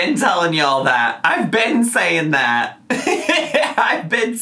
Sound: laughs

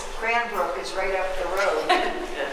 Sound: laughing

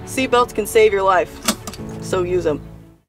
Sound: seat belt click

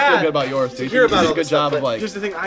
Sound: burp

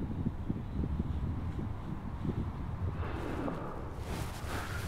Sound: wind blowing

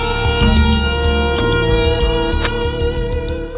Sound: none

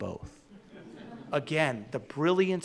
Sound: audience laughing

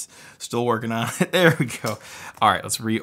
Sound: laughs

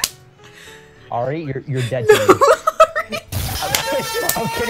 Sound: hears earrape audio

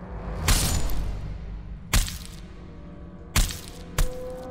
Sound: ax thudding

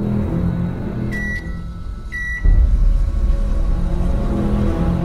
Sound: microwave beeping

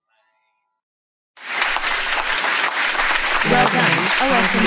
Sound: applause

